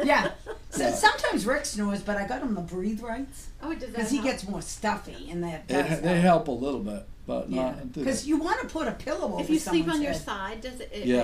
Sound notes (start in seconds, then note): 0.2 voiceover; 5.4 voiceover